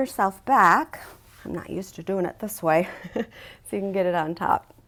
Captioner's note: chuckles